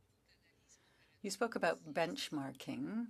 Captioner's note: speaking French